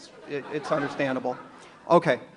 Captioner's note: audience laughs